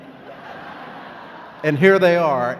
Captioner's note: laughing